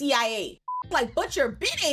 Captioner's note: beep